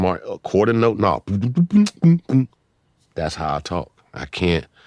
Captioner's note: beat boxing